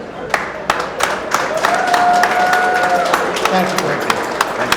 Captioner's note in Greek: το κοινό χειροκροτεί